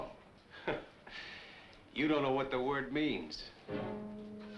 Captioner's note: laughs; dramatic orchestral music